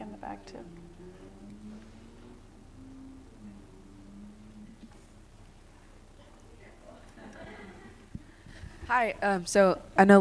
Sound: laughter

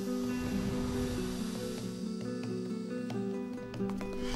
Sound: wind blowing

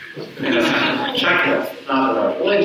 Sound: audience chuckles

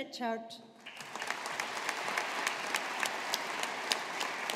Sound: audience applauding

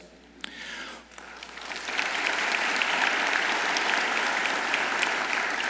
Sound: audience applauds

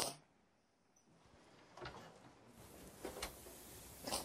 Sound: sniffling

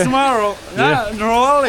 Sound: confused

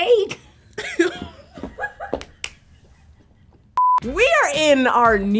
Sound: both laugh

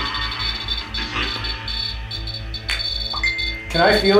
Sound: device beeping

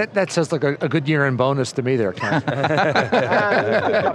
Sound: laughter

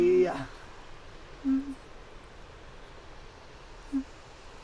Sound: wind howling

